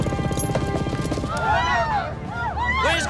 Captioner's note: people yelling